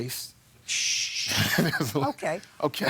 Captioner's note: laughs